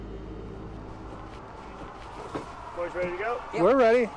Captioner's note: airplane propellers whirring